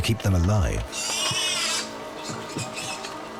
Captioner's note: pig squealing